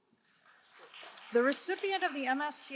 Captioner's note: crowd applauding